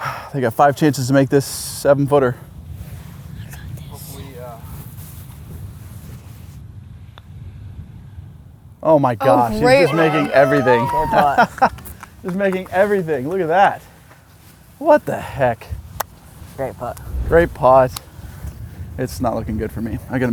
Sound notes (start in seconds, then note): 9.3 laughs